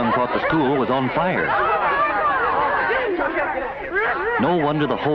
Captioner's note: commotion and chattering